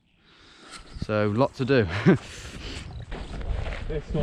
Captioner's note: laughs